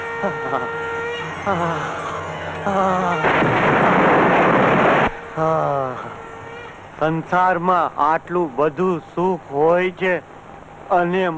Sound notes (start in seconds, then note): 0.0 shivering; 3.0 thunder crashing; 5.3 sighs